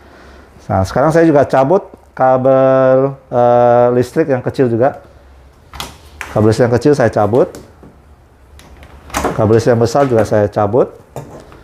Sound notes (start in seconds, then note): 5.4 unplugging cable noise